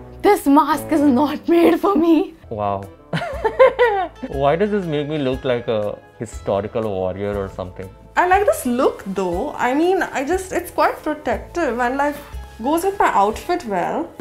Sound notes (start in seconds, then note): 3.2 laughs